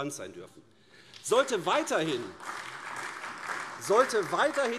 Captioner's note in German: Beifall AfD